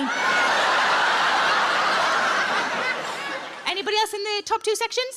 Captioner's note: audience laughs